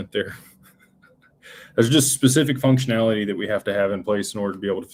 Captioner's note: laughter